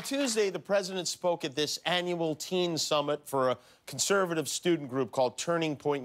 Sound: applause

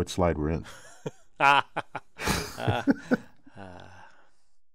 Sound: laugh

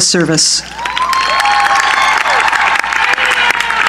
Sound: cheering

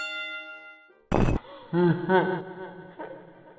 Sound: school bell; clunk, Freddy laugh

